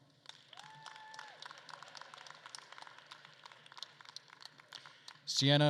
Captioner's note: attendees applauding and cheering